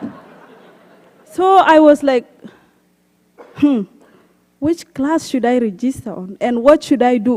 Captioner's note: laughter